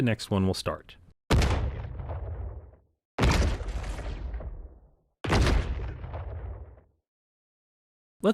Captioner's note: explosion Sounds Play